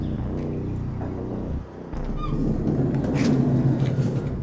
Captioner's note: Sofia knocks on van